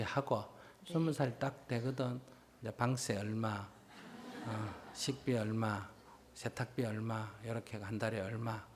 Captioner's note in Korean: 청중 웃음